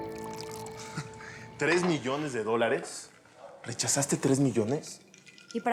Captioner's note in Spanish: sonido al verter